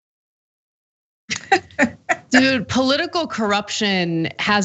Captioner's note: laugh